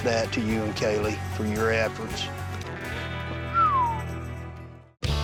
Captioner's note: whistles